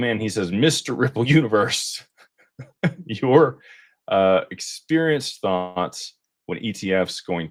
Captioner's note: laughter